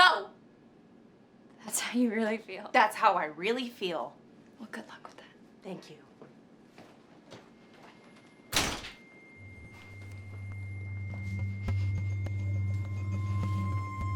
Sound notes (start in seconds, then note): 8.5 door slamming; 10.0 quietly tense electronic music